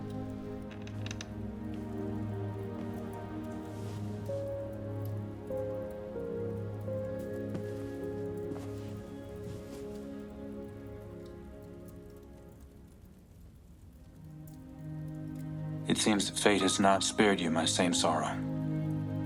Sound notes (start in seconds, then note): none